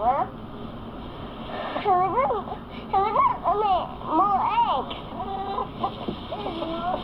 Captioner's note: mumbles